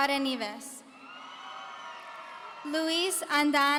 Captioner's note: audience cheering